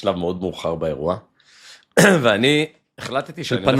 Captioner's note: clears throat